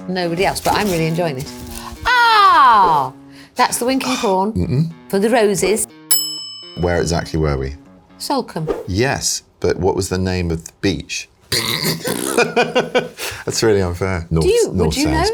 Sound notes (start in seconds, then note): 6.0 bell dings; 11.8 laughs